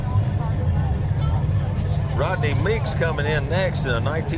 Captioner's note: revving and chattering continue